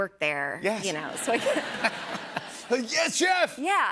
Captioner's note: laughter